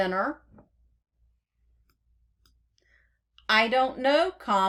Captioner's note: click start